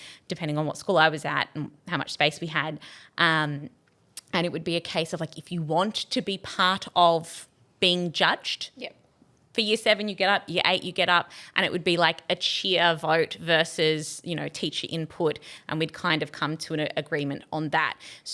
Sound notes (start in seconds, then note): none